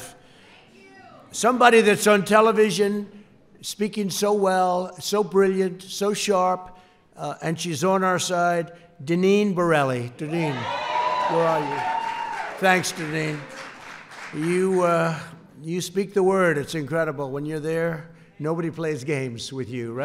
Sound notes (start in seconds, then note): 10.4 applause